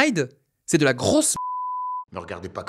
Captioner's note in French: biiiip